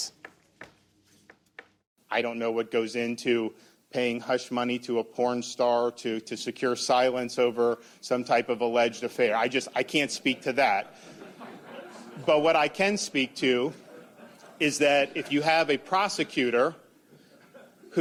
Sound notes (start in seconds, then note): 10.8 laughter